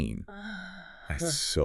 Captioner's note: sighs